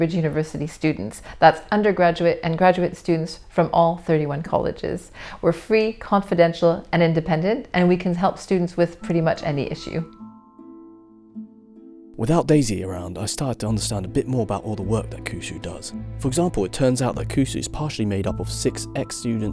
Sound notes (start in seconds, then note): 11.7 voiceover